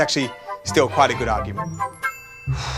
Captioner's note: sighs